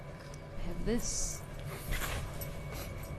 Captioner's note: sniff